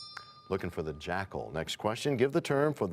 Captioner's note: bell rings, time expires